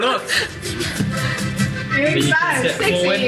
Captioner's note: laughing